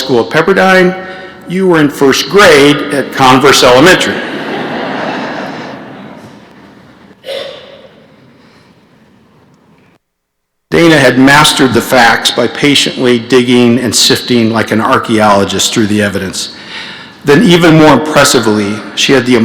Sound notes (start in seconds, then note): 7.2 laughter